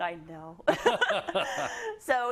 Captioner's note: laugh